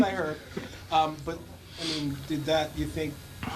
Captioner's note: laughter